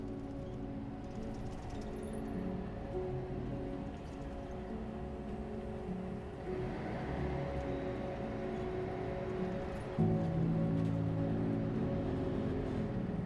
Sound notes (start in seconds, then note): 1.1 bus jangling; 3.5 bus engine whirring; 10.5 gentle music